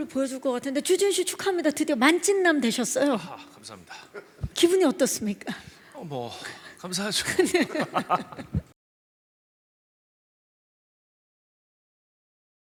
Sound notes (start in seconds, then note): 7.2 laughs